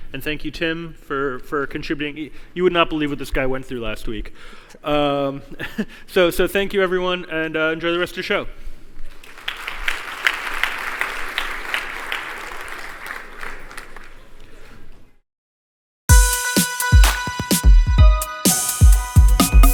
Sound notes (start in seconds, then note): 9.2 applause